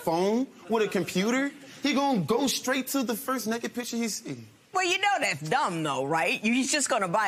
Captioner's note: laughter